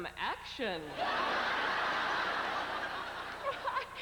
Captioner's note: roaring laughter